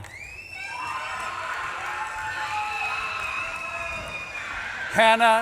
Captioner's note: audience claps and cheers